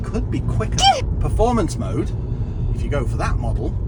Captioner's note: achooo